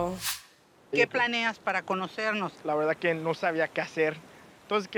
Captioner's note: speaking Spanish